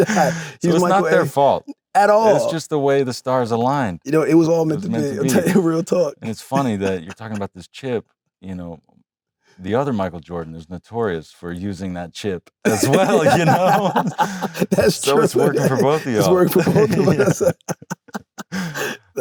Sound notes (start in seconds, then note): 14.6 laughs; 17.7 both laugh